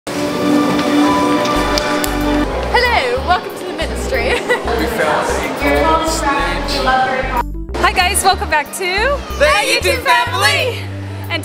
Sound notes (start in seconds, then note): 0.8 dramatic music; 4.1 laughs